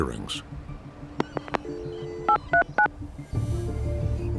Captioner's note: dial tone, phone dialing out